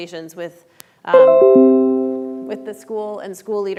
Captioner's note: notification chiming